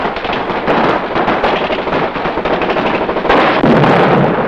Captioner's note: guns fire; bomb explodes; guns fire